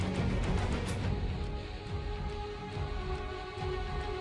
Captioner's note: sword whooshing